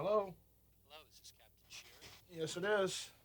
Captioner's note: on telephone